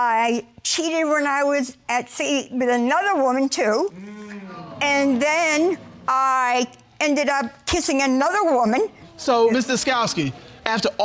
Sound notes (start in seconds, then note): 2.3 audience sighing